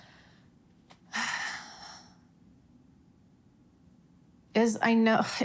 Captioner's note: sighing heavily